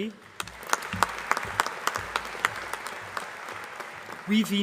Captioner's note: applause